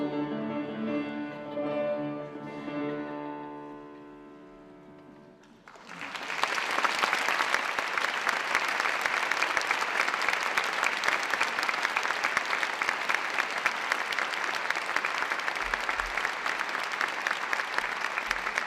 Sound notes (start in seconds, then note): 5.4 cheers and applause